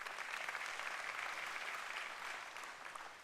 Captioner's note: applause